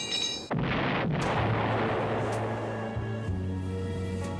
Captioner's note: explosion